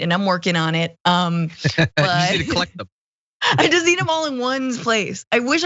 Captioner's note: laugh